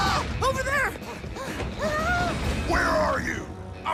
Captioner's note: panting, gasping